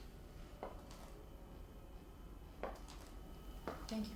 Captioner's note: high heel footsteps get closer